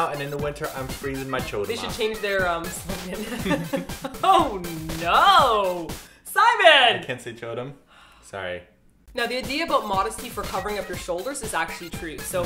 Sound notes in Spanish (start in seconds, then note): 4.3 comienzan las risas; 7.9 suspiro